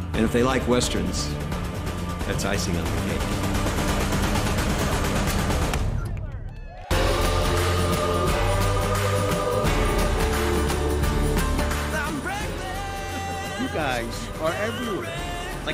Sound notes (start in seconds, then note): 3.9 jazzy music; 5.7 people cheering; 9.4 jazzy music